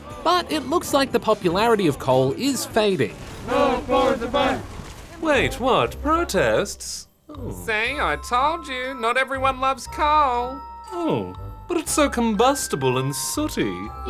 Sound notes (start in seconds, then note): 3.4 chanting